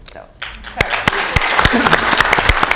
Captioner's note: applause